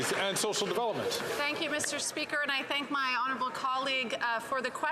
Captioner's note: some Applause